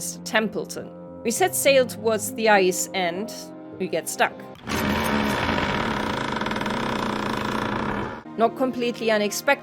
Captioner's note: sounds of getting stuck in the ice